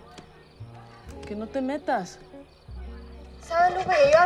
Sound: Lupe speaks in Spanish; Esti and Lupe speak in Spanish

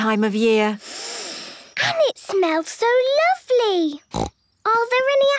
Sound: Peppa inhaling deeply; snorting

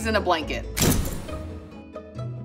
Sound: percussive hit; playful music

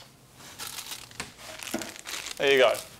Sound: plastic rustling

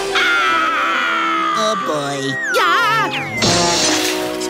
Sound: screaming

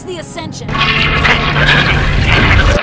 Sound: toilet flushes, ship explodes

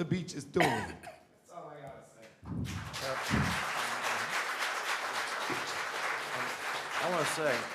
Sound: applause

